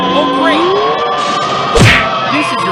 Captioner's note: crash!